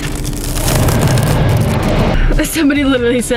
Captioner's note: loud ice crackling